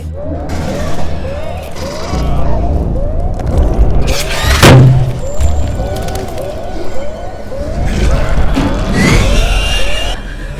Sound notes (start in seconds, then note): 0.1 sounds of sirens, gunfire, and screams; 4.4 loud thud; 8.7 alien screeches